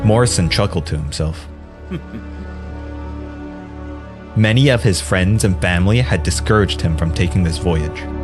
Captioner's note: chuckles